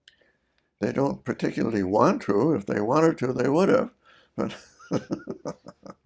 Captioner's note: laughs